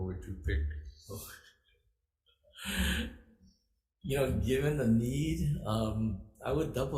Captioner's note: chuckles